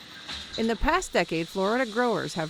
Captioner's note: voice-over